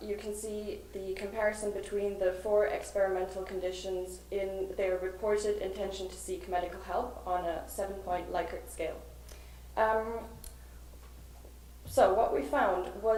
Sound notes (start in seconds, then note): none